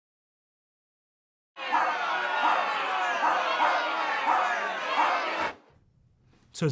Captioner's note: barking and inaudible yelling